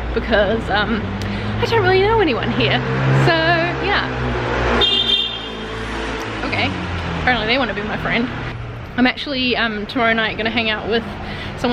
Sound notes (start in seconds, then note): 4.8 honking